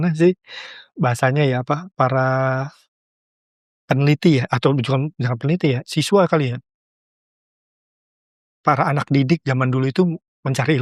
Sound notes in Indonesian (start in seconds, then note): none